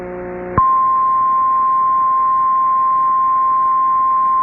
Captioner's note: 1050 HZ tone